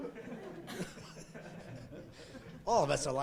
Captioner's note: laughing